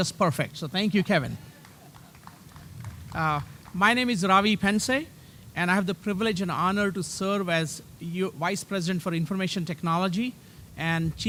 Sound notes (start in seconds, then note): 1.4 applause